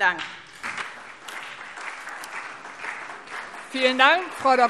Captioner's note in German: Beifall SPD und vereinzelt DIE LINKE